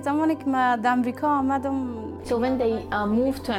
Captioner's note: speaking foreign language